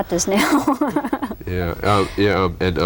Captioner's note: laughter